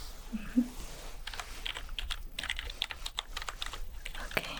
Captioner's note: typing sounds